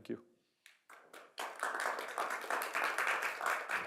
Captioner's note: applause